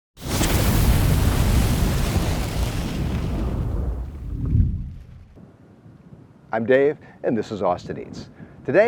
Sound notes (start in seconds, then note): 0.2 flames roaring